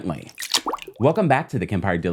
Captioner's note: splashing